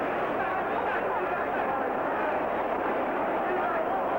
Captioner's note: crowd cheers